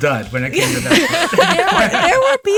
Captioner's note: laughing